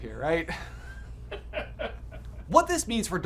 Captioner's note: all laughing